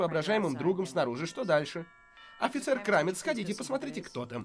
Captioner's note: doorbell rings